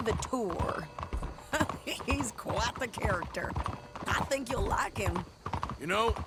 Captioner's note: laughs